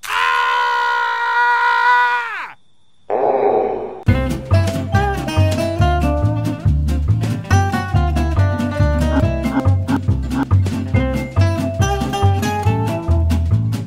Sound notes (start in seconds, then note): 9.2 laughing